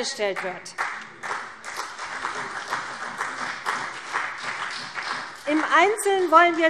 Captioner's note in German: Beifall CDU und BÜNDNIS 90/DIE GRÜNEN